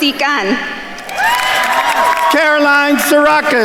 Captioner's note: attendees cheering and applauding